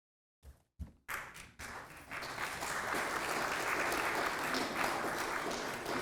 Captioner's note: applause